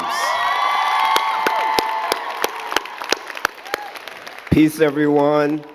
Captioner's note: all cheering and clapping